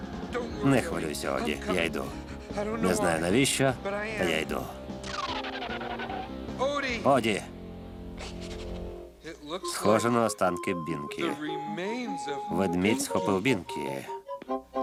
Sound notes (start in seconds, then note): 1.4 panting